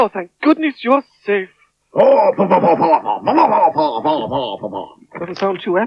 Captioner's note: Spencer Talks In Spider Language